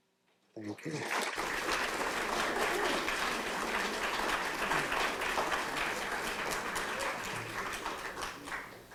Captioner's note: applause